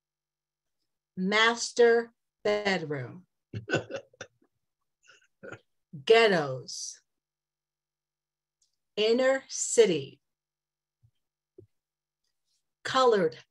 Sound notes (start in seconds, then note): 3.5 laughter